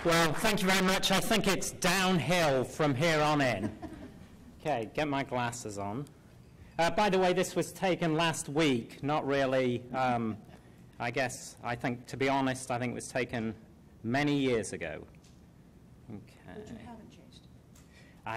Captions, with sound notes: - Wow, thank you very much. I think it's downhill from here on in. (laughter) K, get my glasses on. By the way, this was taken last week, not really. I guess I think, to be honest, I think it was taken many years ago. - [Voiceover] But you haven't changed.